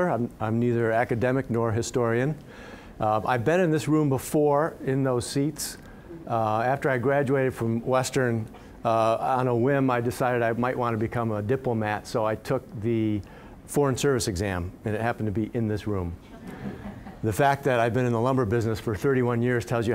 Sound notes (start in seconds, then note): 16.2 audience chuckling